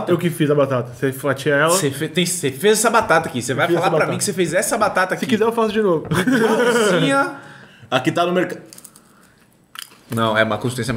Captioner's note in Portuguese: risos